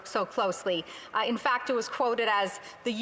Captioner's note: speaking spanish